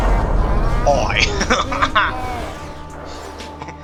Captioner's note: laughs